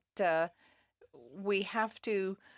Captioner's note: speaking in French